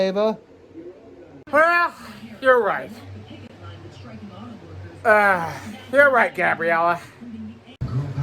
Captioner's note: slurred; "Entertainment Tonight" plays in background